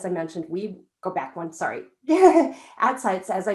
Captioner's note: laughs